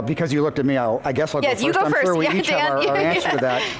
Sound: laughs

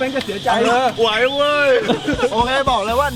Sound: chuckles

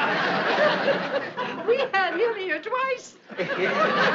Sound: laughing

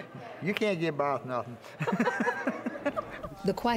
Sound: laughter

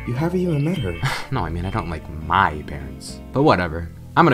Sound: chuckle

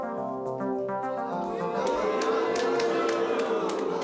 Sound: audience boos

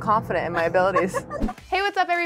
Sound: laughs

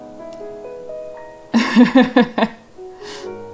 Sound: laughs

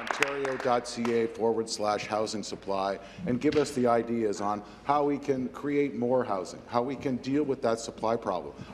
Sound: some applause

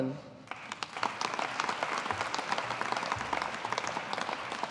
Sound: audience applauding

